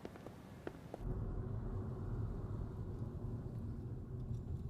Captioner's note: engine rumbling